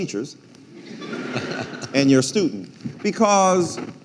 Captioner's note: audience laughing